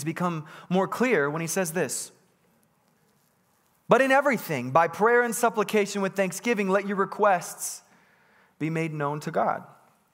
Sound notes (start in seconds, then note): none